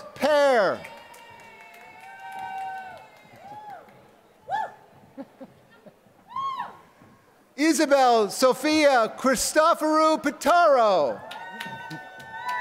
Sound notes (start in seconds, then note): 0.0 applause; 7.5 laughter; 11.1 applause